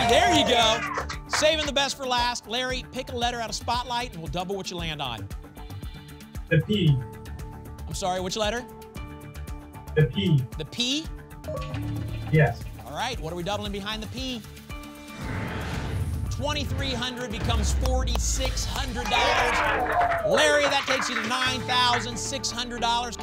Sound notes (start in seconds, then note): 15.2 whoosh